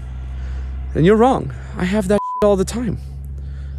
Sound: beep

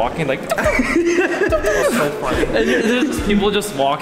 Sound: laughter and pew noises

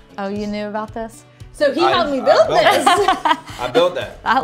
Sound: laughter

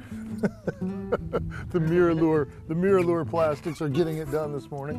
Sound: laughter

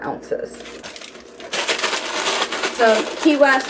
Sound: paper crumpling

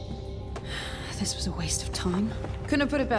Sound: Caitlyn sighs

